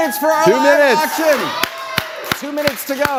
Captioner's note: applause, cheering